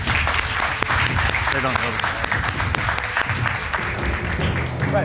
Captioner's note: crowd clapping